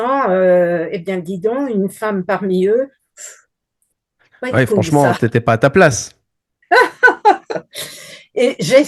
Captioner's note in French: rires